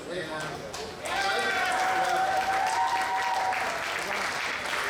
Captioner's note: applause